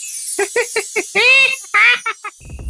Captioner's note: the lover boy bursts into a happy laugh